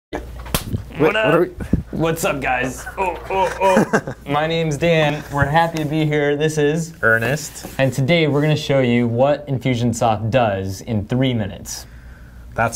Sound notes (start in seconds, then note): 0.5 hands clapping; 2.6 laughing